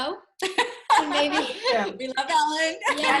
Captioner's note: laughs